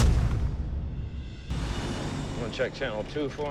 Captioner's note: thud; swish